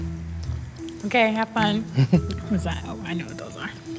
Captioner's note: laughing